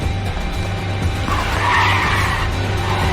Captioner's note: brakes screeching